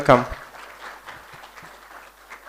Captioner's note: applause